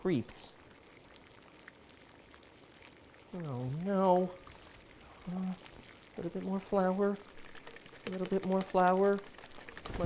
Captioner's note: something boiling on the stove